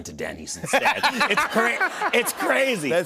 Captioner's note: laughter